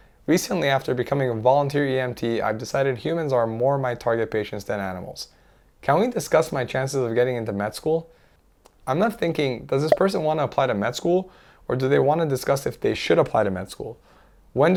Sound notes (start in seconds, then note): none